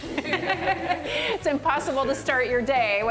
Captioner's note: laughter